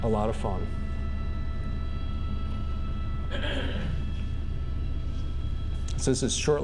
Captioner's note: interior helicopter hum